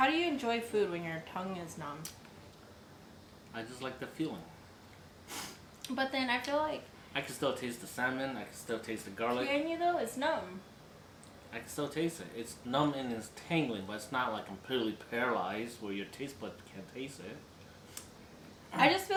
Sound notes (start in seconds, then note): 5.2 sniff